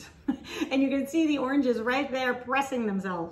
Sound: chuckling

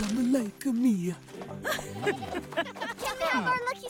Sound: laughing

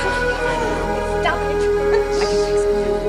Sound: giggles

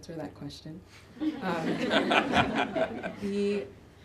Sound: laughter

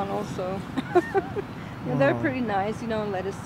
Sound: laughs

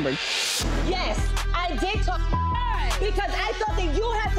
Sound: beep

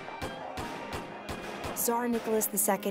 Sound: gunshots

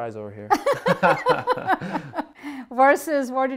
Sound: laughs

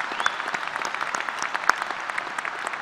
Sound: applause

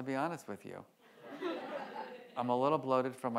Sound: audience laughs

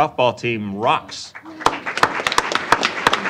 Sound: applause

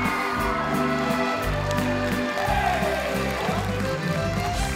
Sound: audience clapping

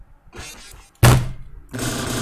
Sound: punches the table

